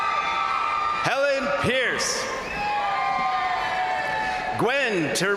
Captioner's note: crowd cheering